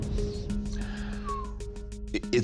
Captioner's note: breathes deeply; whistles